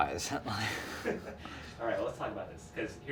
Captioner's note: men laugh